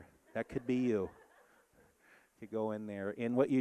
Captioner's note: audience laughing